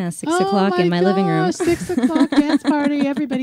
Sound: laughs

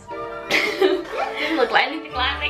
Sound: laughs

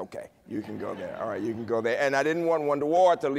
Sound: laughter

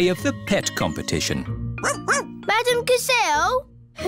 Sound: barks

